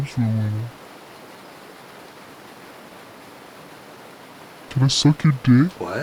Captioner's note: birds chirping; water splashing